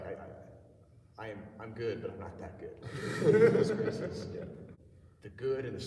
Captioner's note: laughter